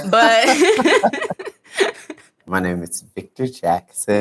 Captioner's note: laughs